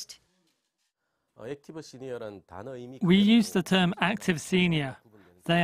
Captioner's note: Korean